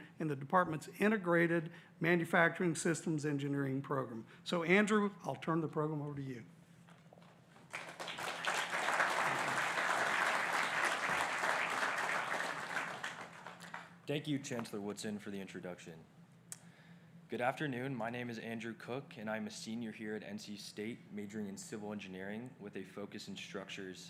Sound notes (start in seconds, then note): 14.0 applause